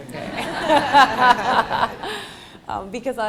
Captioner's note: laughter